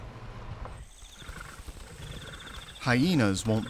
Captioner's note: insects chirping